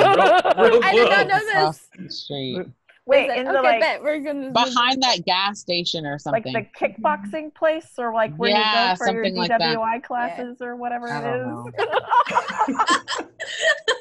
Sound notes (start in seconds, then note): 9.4 laughter